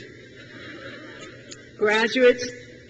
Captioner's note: crowd laughs